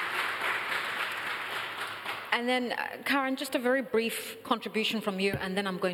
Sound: applause

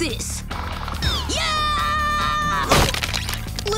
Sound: screaming

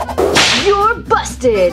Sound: PJ Masks whirring and whooshing

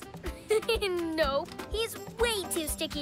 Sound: chuckles

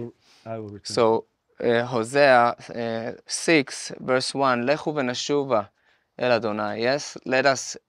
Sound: Speaking Hebrew

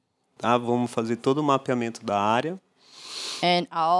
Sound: non-english speech

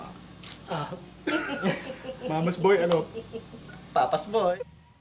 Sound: chuckles

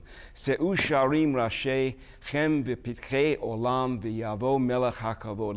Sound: speaking Hebrew

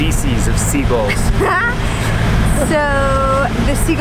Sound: laughs

